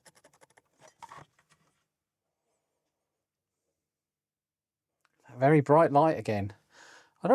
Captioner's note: silence